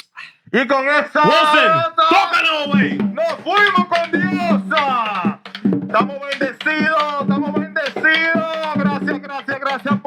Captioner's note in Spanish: Hablando en idioma extranjero